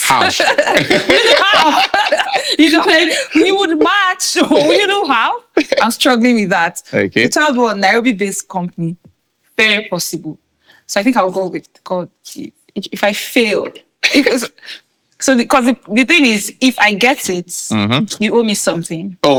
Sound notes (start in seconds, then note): 0.0 laughing